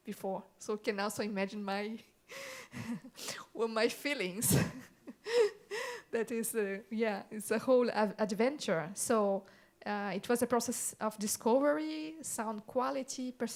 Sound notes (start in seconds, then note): 4.5 laughs